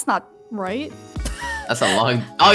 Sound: laughs

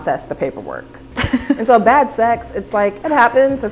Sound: laughing

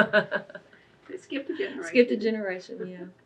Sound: laughs

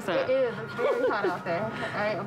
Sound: chuckling

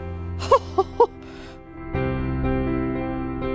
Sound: laughs; soft music

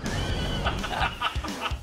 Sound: laughing

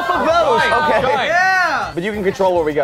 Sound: cheers

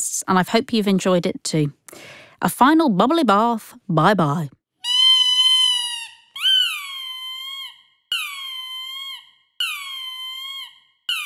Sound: sound of a rubber duck squeaking

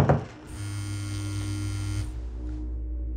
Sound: phone vibrate

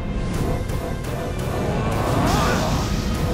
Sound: grunting

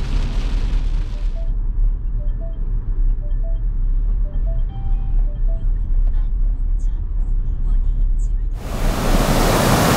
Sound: drone

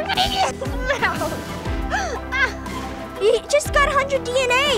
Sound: laughing

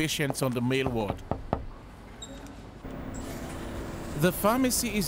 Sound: knocking on door

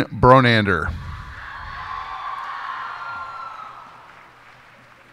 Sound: cheers and applause

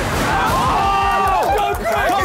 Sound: all cheering

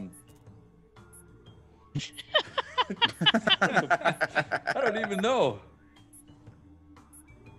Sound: laugh

